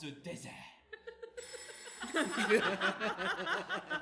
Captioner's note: the phone rings